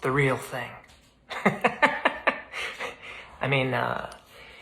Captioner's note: laughs